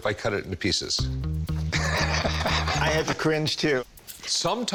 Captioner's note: Rick laughing